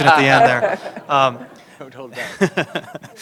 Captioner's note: laughter